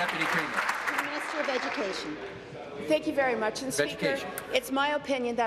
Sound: applause

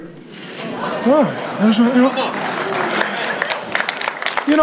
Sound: audience applauding

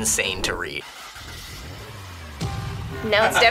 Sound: engine revving

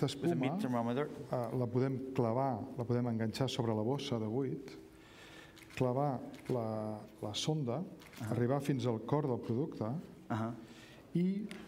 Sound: speaking catalan

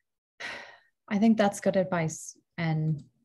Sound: sighs

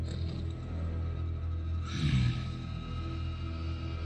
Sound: snarling; slow eerie music continues

